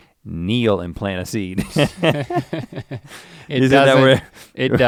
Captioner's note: chuckles